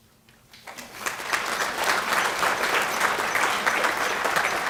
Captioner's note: clapping